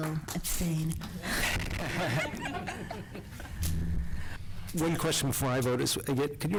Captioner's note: applause